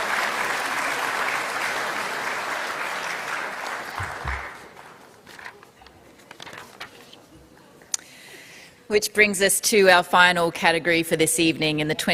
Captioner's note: applause